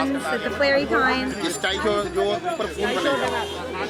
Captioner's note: in foreign language